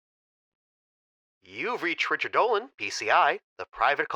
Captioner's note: voicemail message